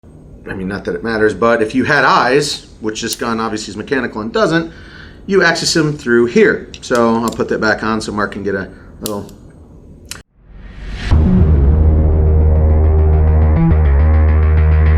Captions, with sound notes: - I mean, not that it matters, but if you had eyes, which this gun obviously is mechanical and doesn't, you access 'em through here. So, I'll put that back on so Mark can get a little. (gun clicks) (intense electronic music)